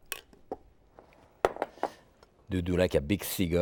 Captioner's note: bowl tapping